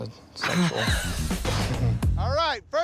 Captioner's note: laughs